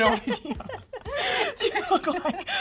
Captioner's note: laughing